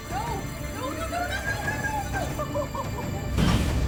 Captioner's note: sobs